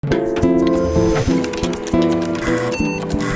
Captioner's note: keyboard clacking; computer beeping; floppy drive buzzing